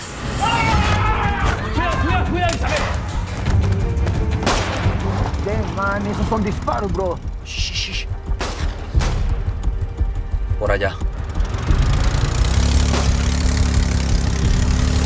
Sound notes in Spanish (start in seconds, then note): 0.3 Grito; 4.4 Disparo; 8.3 Disparos; 11.3 Disparo; 11.3 Sonido del motor acelerando